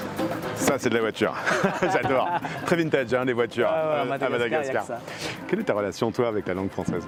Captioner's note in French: rires